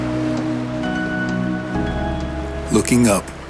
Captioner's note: waves crash in the distance